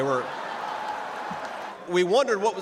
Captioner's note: laughter